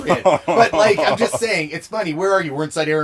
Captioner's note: laughs